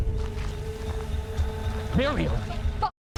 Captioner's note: footsteps crunching